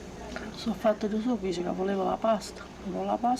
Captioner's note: continues In Italian